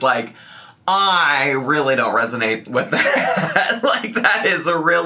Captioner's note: laughing